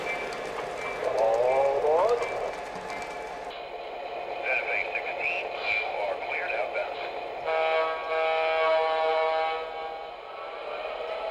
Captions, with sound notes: - [Voiceover] All aboard. - [Voiceover] Santa Fe 16, you are cleared outbound. (horn blowing)